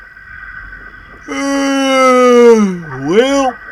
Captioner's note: yawn